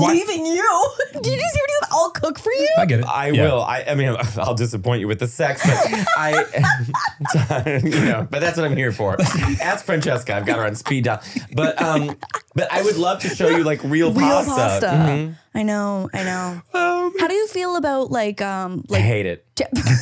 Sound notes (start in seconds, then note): 5.8 laughing